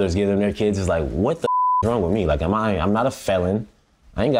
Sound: beep

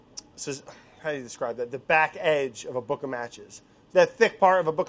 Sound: none

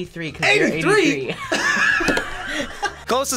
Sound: group laughs

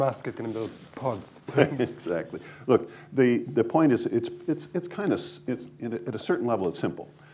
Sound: laughter; laughs

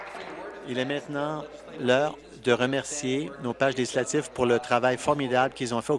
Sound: applause

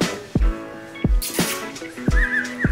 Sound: bird sounds; kissing sound

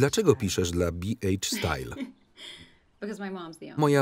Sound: laughs

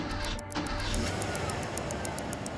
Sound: engine rumbles

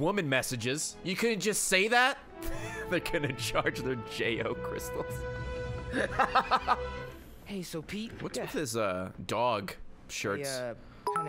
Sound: laughs

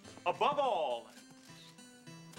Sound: shutters clicking

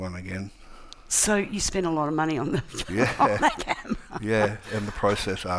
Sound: laughs

